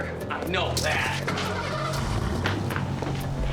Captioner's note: engine starting